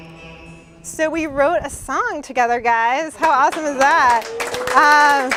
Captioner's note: applause